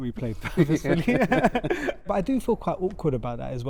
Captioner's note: laughter